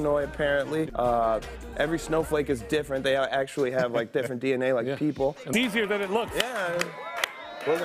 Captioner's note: laughter